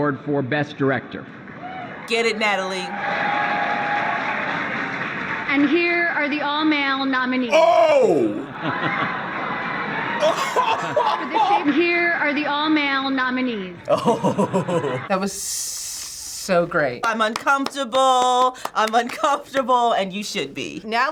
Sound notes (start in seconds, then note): 10.2 laughs; 10.2 chuckles; 13.8 chuckles